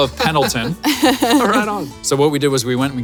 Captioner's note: laughs